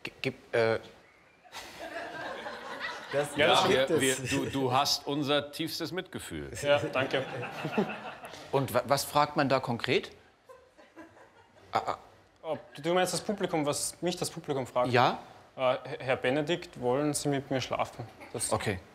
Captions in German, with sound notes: Gibt es ... äh ... *Lachen des Publikums* Du hast unser tiefstes Mitgefühl. - Ja, danke. Und was fragt man da konkret? Du meinst das Publikum, was mich das Publikum fragt? Ja. Herr Benedikt, wollen Sie mit mir schlafen? Das ist okay.